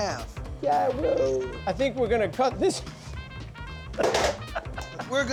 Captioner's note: laughs